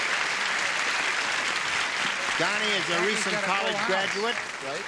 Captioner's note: applause